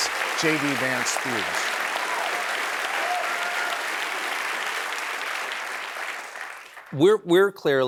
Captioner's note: applause